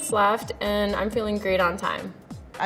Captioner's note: countdown sound